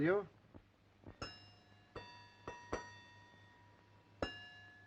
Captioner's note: chiming